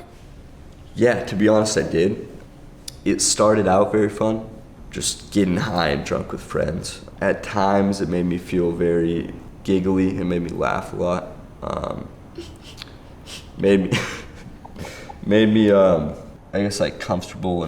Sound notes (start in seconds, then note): 11.4 laughter